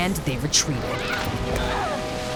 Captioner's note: groaning